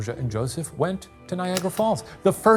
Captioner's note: projector clicking